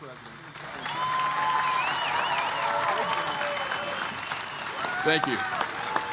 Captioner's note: applause